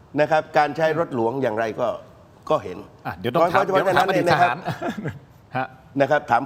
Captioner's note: laughter